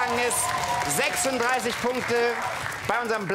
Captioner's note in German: Jubel und Applaus